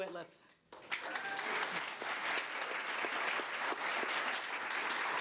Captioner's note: crowd applause